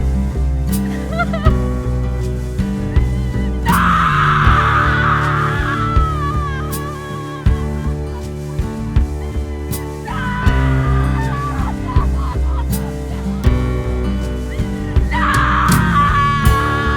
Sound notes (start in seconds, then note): 8.9 Elizabeth sobs